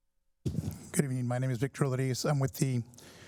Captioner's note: applause